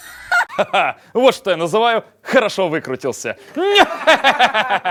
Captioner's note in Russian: пародия на смех; подлянский смех